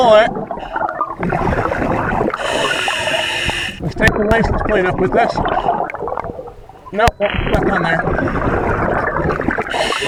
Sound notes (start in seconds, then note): 0.8 water burbling; 2.4 regulator hissing; 7.2 water burbling